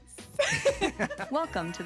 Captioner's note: laughing